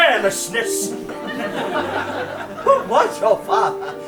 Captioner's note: audience laughs